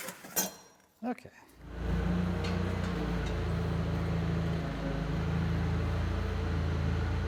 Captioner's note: engine roaring